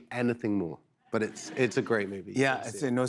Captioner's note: laughter